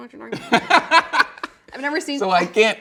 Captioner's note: laughing